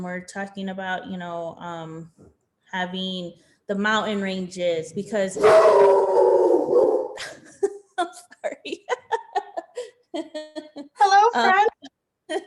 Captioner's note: dog howling